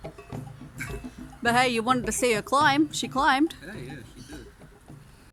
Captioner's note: chuckles